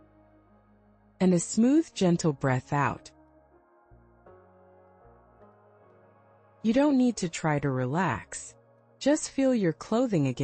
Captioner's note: pause